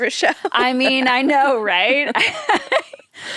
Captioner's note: laughs